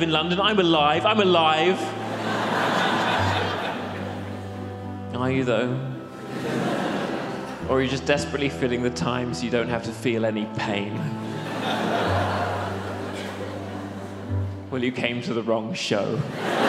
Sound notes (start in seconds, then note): 1.9 audience laughs; 11.0 audience laughs; 16.1 audience laughs